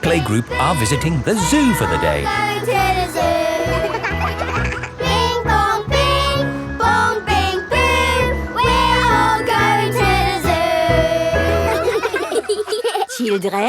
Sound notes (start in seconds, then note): 3.4 giggling; 5.4 all singing; 11.0 children laughing